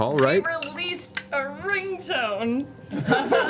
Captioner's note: laughs